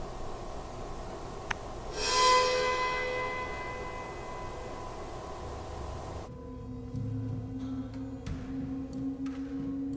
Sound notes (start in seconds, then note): 1.4 light tapping; 1.9 ominous music